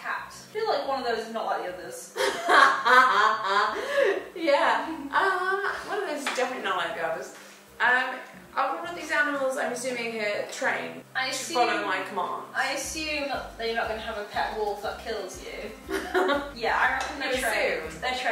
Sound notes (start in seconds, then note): 2.1 laughing